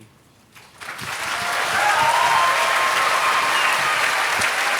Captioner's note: applause